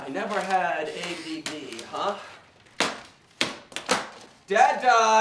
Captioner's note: paper thwacking; papers rustling